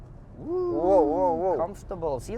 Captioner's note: woooo~